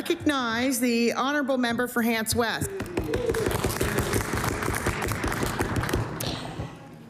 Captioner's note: applause